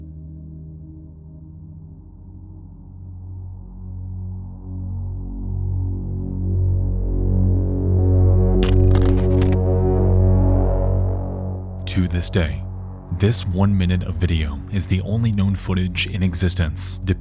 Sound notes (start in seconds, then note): 3.5 ominous music; 8.6 static crackling